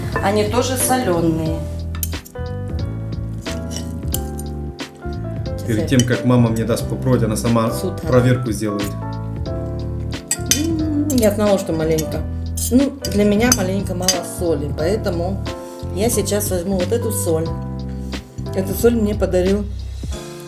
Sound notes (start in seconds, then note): 13.4 frying and boiling